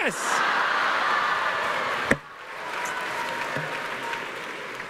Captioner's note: laughter